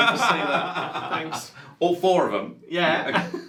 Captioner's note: laughs